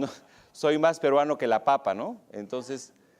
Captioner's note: speaking spanish